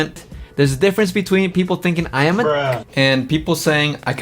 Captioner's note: bruh sound